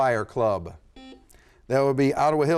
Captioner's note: buzzer sounds